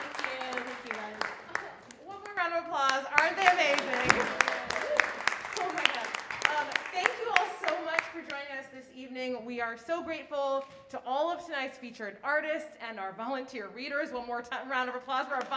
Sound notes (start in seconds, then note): 3.1 audience applauding